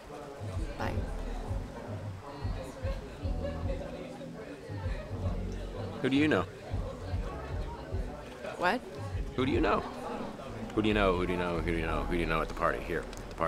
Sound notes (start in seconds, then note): 1.3 indistinct chatter